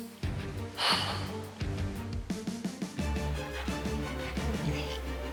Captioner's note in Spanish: exhala